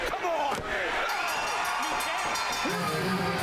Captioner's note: bell ringing